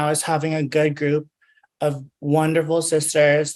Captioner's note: none